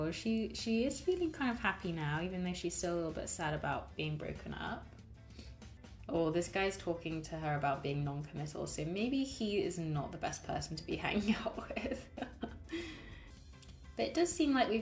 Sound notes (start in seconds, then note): 11.7 laughs